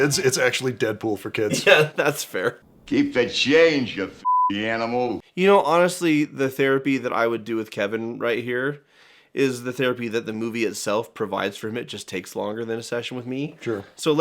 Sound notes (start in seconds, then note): 4.2 beeping